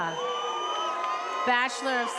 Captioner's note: attendees applauding and cheering